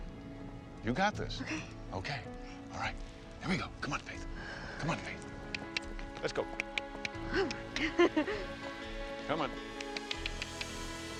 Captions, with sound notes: You got this. - Okay. - Okay. All right, here we go, come on Faith, come on Faith. Let's go (tongue clicking). Come on.